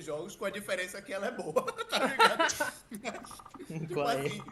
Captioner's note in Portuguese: todos riem